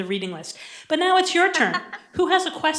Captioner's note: laughter